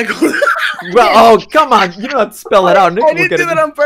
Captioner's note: laughs